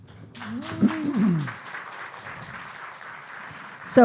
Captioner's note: clapping